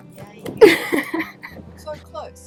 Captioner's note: laughing